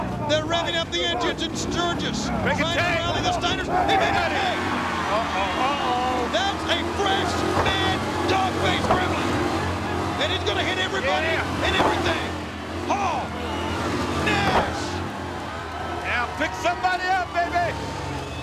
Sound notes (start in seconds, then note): 6.4 motorbike revving; 11.7 body thudding; 14.3 body thudding